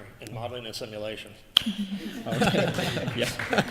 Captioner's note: laughter